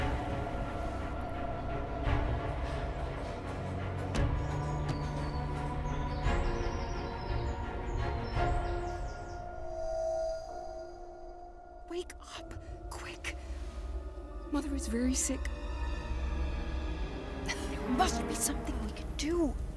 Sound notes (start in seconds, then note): 1.4 birds chirping